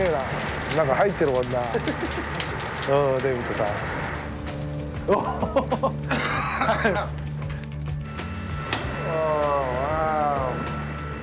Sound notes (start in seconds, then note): 7.3 coughing